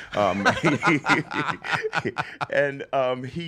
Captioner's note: laughs